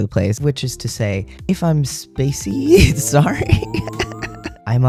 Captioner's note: laughter